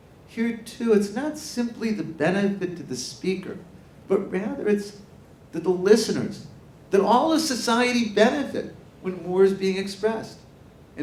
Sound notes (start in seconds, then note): none